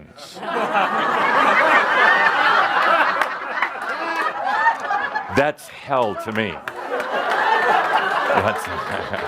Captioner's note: laughter; lots of laughter; more laughter